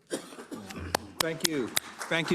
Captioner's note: cough; applause